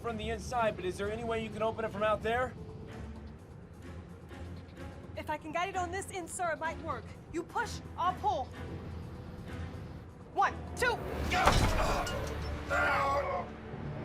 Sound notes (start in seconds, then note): 11.4 both grunt